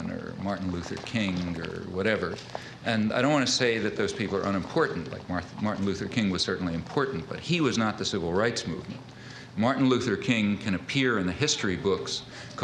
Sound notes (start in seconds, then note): none